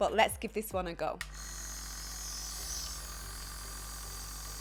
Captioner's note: nebulizer pumping